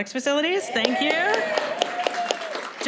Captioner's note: applause